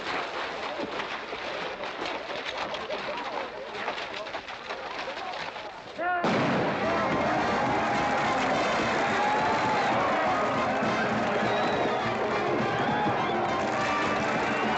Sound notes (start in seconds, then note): 6.2 band playing & crowd cheering; 6.2 blank gun firing; 14.5 crowd cheering and hooves pounding